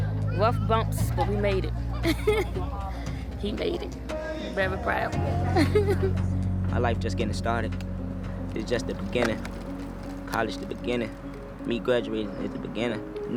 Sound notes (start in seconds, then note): 2.0 laughter; 5.4 laughter